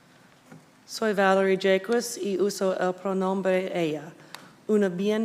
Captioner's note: speaking Spanish